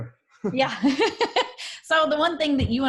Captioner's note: laughs